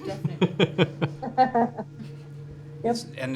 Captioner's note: laughter